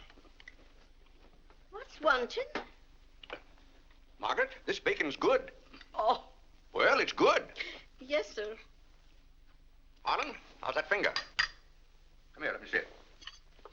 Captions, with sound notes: - What's wanted? - Margaret, this bacon is good! - Oh! (laughs) - Well, it's good! - Yes, sir. - Harlan, how's that finger? Come here, let me see it.